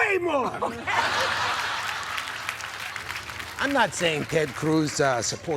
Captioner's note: applause